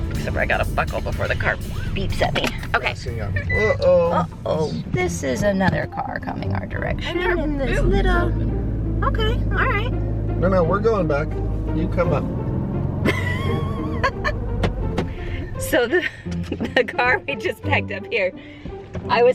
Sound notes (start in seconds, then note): 13.0 laughs; 13.5 playful music